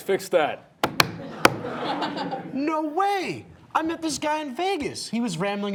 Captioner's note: audience laughing